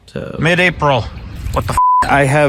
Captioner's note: beep